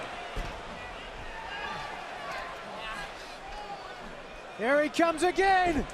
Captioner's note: crowd chatter